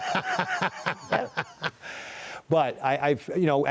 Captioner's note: laughter